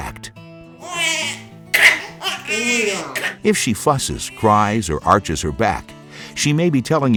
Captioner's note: baby crying